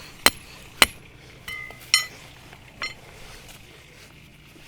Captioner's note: metal hitting sound